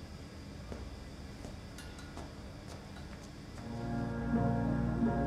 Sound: footsteps tapping; dramatic music

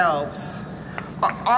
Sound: clapping

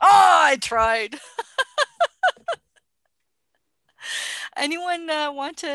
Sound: laughter

